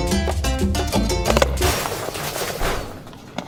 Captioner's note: loud crash